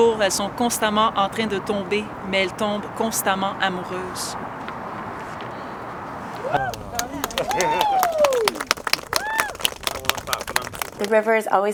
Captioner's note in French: Applaudissements